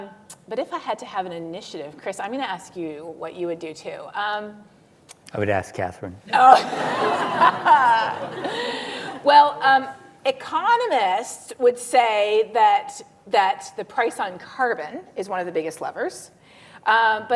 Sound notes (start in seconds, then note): 6.3 laughs